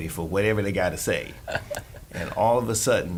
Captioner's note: laughing